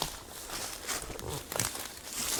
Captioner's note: rustles